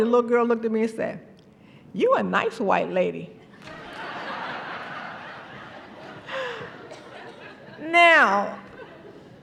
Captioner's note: laughter